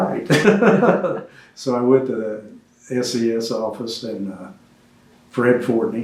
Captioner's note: laughs